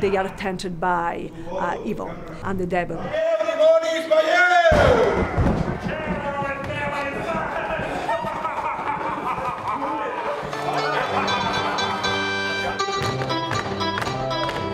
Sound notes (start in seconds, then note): 3.3 devil shouting in Catalan; 4.7 thunderclap; 7.3 commotion and evil laughter